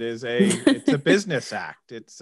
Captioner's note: sassy laughs